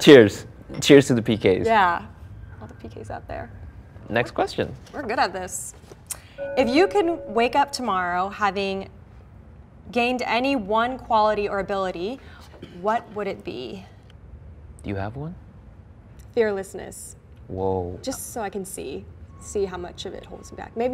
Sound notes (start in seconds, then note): 6.4 bell chimes